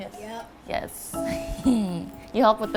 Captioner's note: laughs